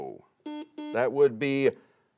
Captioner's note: buzzer dings